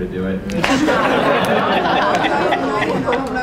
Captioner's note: laughter